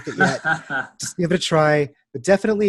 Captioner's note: laughter